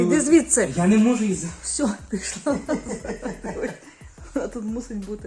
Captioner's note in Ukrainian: сміх